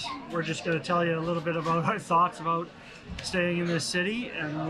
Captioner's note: laughs